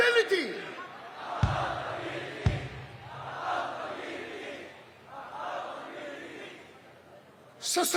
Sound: crowd chants: Accountability!

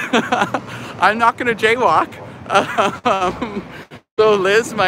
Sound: laughing; laughing

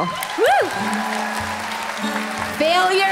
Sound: applause

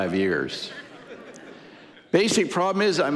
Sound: audience laughing

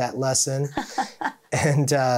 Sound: chuckling

